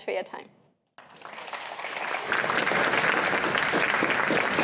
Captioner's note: applause